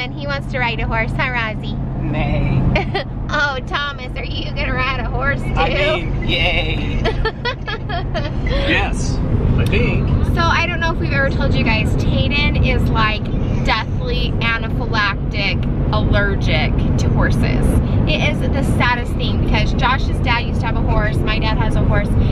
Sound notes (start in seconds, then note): 7.1 laughing